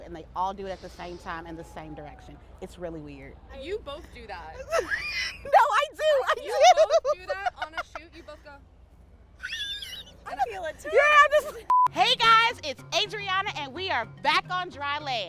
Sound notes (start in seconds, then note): 4.5 laughs